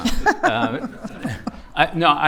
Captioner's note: laughter